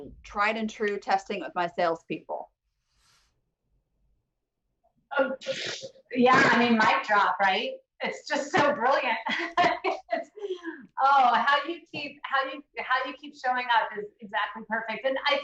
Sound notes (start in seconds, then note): 9.1 laughs